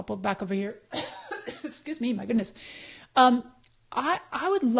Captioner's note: coughs